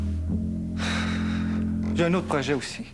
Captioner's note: Soupir